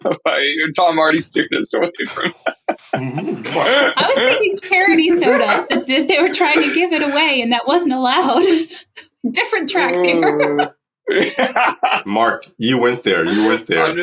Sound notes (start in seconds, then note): 2.3 giggles; 10.7 laughs